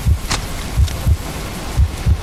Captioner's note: sloshing